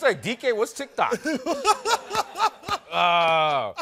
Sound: laughing

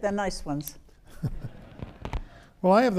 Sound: audience laughs

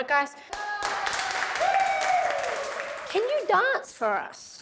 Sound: applause and Cheering

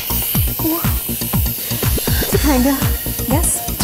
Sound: hissing

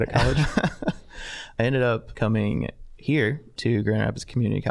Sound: laughing

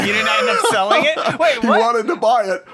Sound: laughter

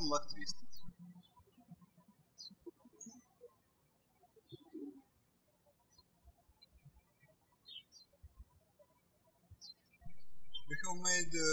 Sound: birds chirping

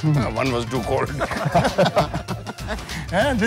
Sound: everyone laughs

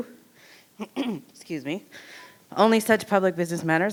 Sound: coughs

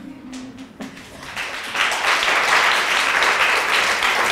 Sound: applause

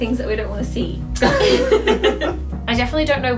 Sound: laughing

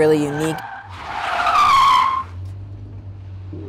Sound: tires squealing

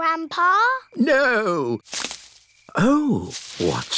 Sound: rustling

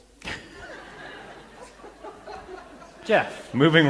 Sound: laughter

